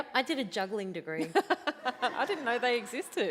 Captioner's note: laughs